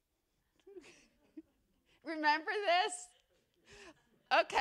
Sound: laughing

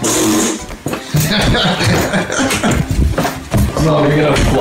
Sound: laughing

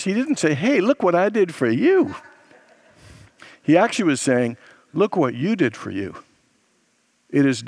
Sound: congregants laugh

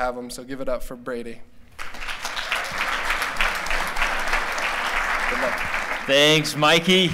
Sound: applause

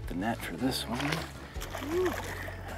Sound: water splashes

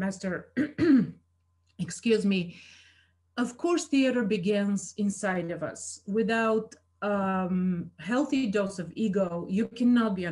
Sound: coughs

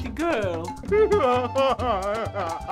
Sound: sobbing

